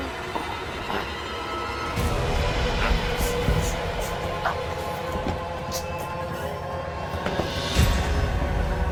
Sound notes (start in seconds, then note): 2.2 voices whispering; 2.7 Will grunting